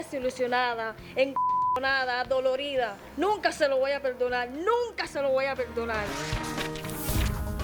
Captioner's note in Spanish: Bip